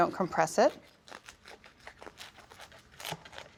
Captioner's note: bread crunching